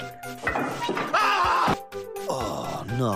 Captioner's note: cars screaming